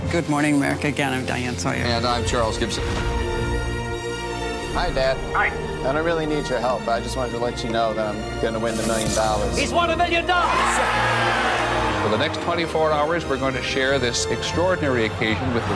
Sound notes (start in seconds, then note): 10.4 cheering